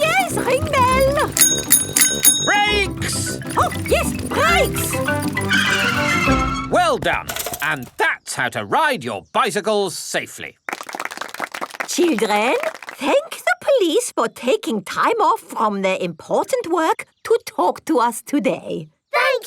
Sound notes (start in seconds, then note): 0.0 rings bell; 5.8 tires screech